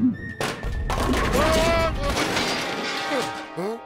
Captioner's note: bowling pins clatter